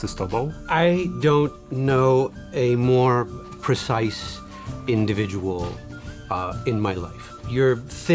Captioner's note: in English